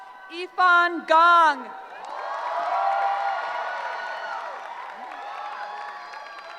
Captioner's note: cheering